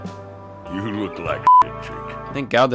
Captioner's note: beep